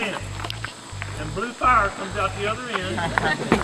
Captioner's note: laughter